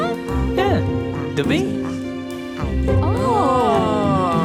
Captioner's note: speaks in another language